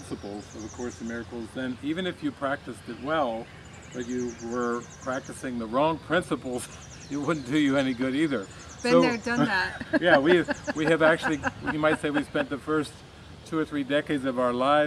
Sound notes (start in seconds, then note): 8.9 chuckles